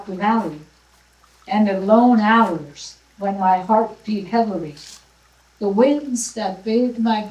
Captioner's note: none